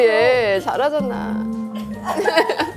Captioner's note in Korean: 뚜웅